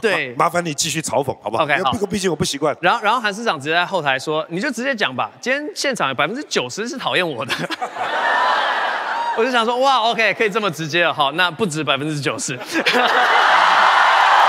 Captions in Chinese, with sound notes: 麻煩你繼續嘲諷! 好不好..不然我不習慣 百分之九十是討厭我的 (台下歡呼)